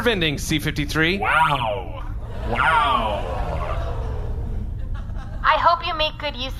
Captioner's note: audience ooos